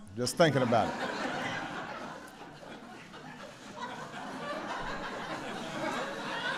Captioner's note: laughter